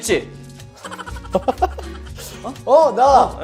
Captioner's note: laughing